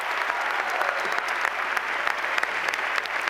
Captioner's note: cheers and applause